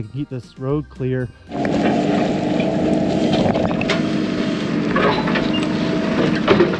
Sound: metal clanging; backhoe rumbling

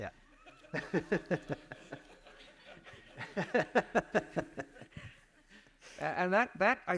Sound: audience laughs

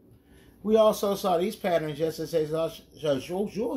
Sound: speaks gibberish

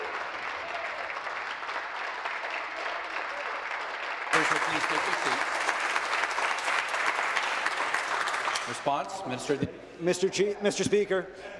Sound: applause

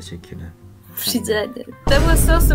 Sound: Turkish

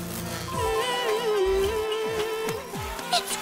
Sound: humming

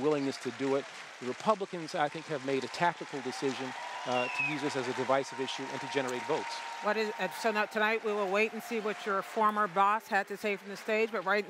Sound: cheers & applause

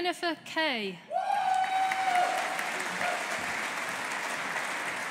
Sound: audience applauding

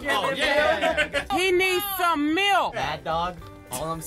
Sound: squeaky voice

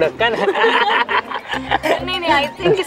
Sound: laughter

